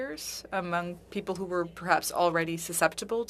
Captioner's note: speaking French